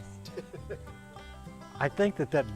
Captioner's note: laughs